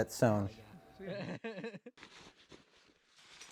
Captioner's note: laughing